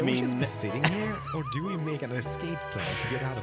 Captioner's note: laughs